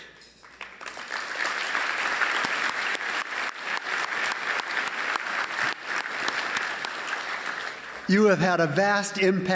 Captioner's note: applause